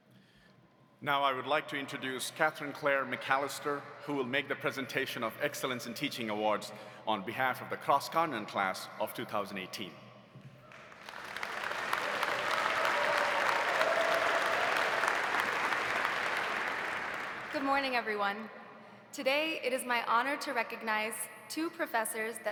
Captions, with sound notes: - Now I would like to introduce Katherine Claire McAllister who will make the presentation of Excellence in Teaching Awards on behalf of the Cross Continent class of 2018. (audience applauding) (audience cheering) - Good morning everyone. Today it is my honor to recognize two professors